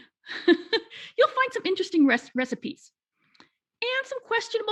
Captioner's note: laughing